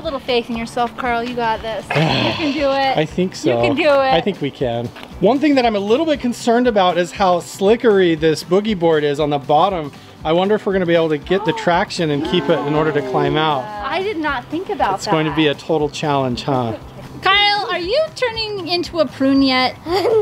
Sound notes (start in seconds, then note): 1.9 gasps; 12.1 group gasps; 19.8 laughs